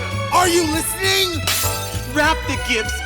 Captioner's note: glass smashes